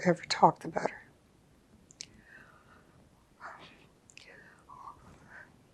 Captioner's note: pauses 6 seconds